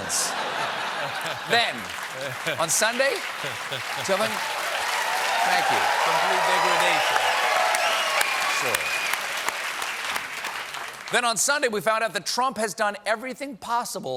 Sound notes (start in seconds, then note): 0.0 laughter; 4.7 cheers and applause